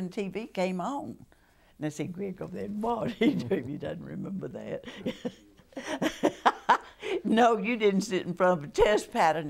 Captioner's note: laughter